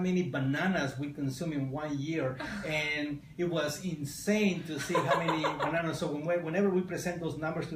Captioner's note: laughter